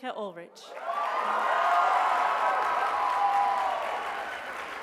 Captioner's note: applause